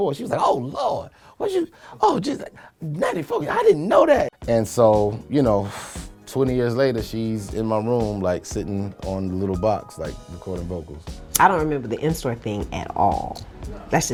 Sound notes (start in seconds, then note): 11.8 lighter flicks